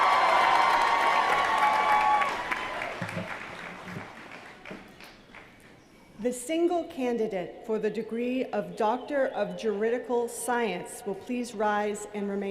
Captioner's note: applause